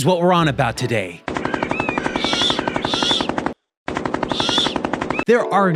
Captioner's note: rapid gunfire; birds squawking